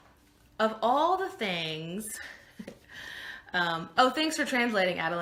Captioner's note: laughing